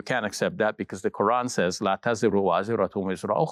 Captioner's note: speaks Arabic